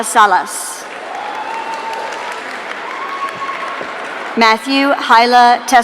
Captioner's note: audience cheering